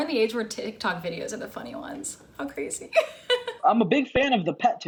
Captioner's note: laughs